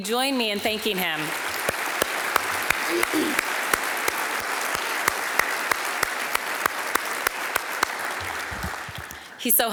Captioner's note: applause